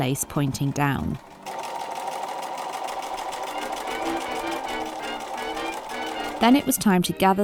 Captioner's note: machine whirring